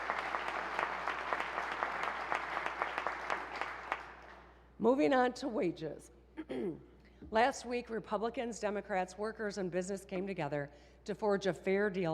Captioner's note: applause